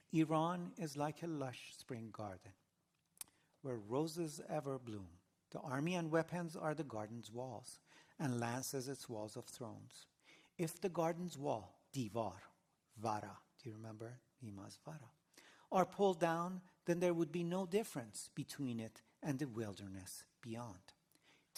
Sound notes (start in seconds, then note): 14.1 non-english